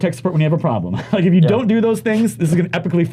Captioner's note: laughs